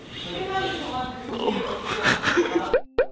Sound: internal yawning

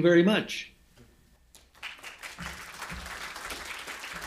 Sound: applause

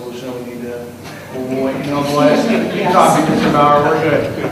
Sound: laughing

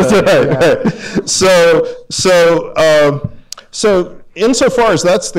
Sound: laughs

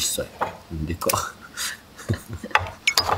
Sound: laughs

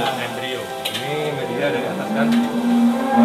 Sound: people sounds

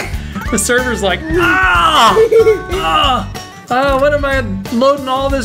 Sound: dad laughing; painful scream

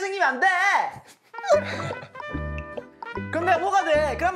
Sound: laughing

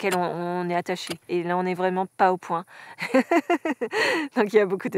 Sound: laughs

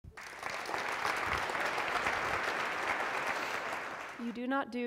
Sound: applause

